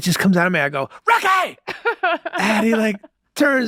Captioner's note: laughing